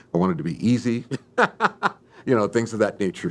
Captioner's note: laughs